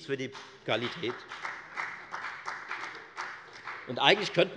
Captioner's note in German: Beifall bei der FDP